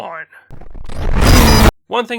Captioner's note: whacked